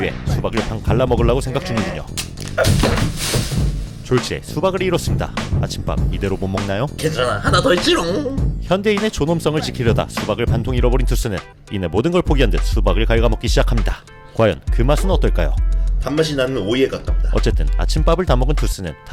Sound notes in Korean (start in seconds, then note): 2.6 폭발